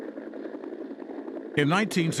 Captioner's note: helicopter whirring